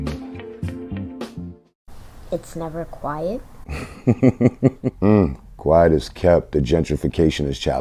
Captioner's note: laughs